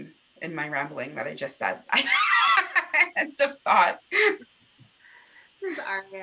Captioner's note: laughter